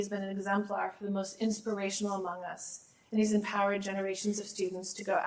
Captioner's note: none